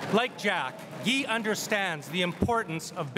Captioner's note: crowd cheering and applauding